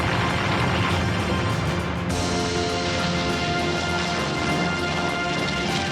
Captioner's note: bomb exploding; plane roaring